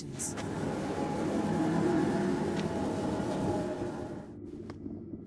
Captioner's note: magic humming